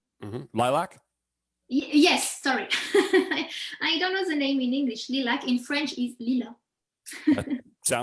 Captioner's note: chuckles